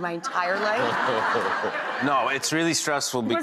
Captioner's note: audience laughing